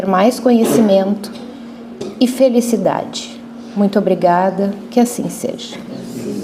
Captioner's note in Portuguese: limpando a garganta